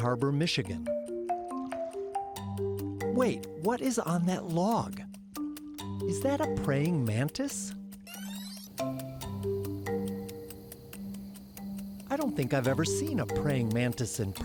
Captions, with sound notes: (gentle music) Wait, what is on that log? Is that a praying mantis? (video tape whirs) (gentle music) I don't think I've ever seen a praying mantis in person.